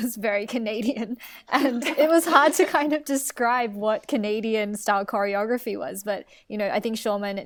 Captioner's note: laughs